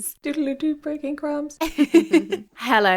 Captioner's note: laughing